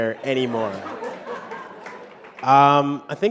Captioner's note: laughter